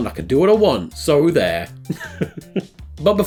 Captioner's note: laughs